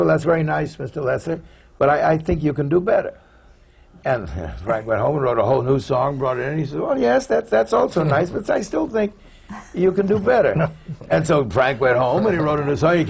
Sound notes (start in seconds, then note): 9.5 laughter